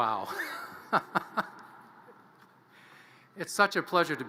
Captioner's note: chuckles